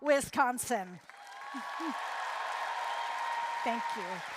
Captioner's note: applause, cheering